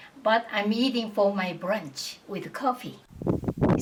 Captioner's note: none